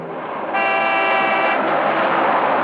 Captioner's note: car horn honks